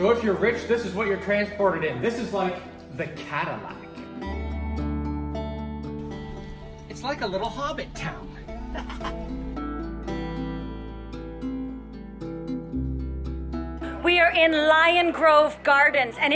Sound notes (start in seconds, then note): 0.0 mellow string music; 4.5 string music continues; 8.4 laughs; 9.8 string music continues